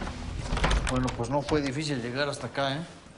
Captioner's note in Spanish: Ruido al cerrar